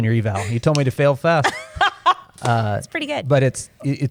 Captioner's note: laughter